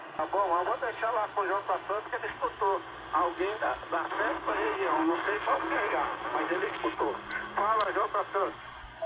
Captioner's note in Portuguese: radio falando